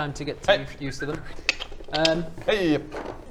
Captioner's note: click click; whistle